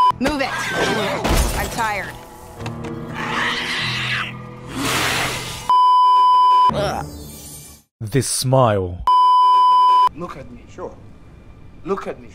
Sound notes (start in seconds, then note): 3.0 screech; 4.6 scre-OH GOD; 9.0 beeeeeep